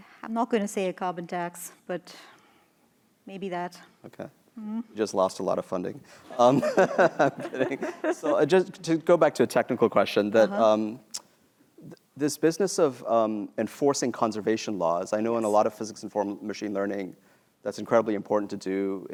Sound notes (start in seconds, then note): 6.3 laughter